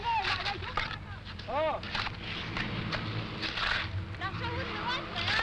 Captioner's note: talking in foreign language